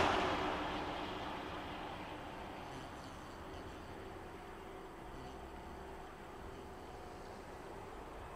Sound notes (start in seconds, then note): 0.3 car zooms; 3.2 flies buzz